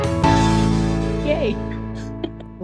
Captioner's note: laughter